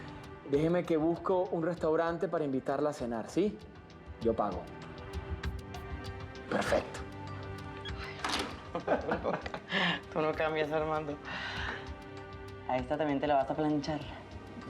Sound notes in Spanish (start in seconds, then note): 8.4 Risas